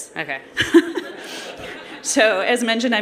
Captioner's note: laughter